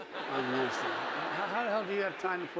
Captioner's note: audience laughing